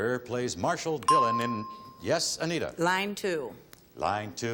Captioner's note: ding